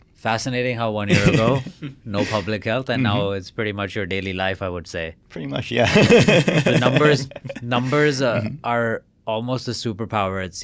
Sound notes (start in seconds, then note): 5.6 laughs